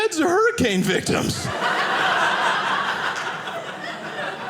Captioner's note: audience laughing